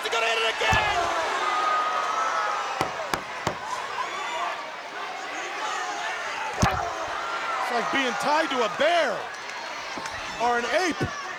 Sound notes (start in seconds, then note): 3.1 crowd cheering; 6.2 wrestlers grunting; 6.6 crowd cheering